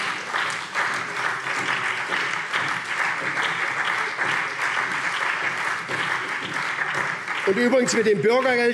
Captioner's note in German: Lebhafter Beifall SPD